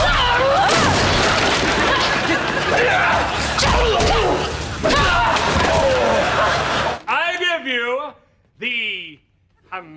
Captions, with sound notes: [smashing] [grunting] I give you the...